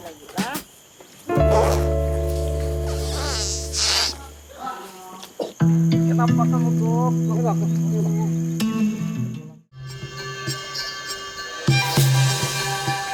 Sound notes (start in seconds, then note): 0.1 in foreign language; 6.4 in foreign language